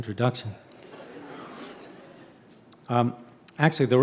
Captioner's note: audience laughing